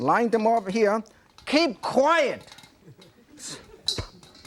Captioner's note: audience laughing; popcorn popping